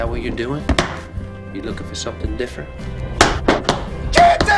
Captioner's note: boot stomp